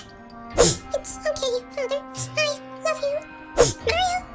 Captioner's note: sniffs